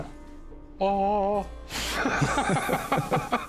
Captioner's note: laughter